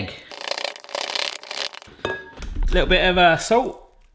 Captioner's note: spoon stirring